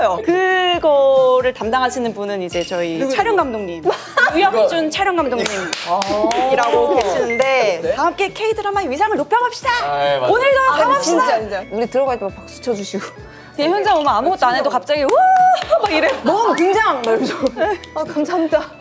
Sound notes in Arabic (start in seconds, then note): 15.0 أولاً، يصفق